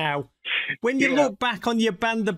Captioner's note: chuckling